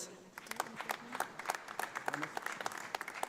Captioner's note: audience applauding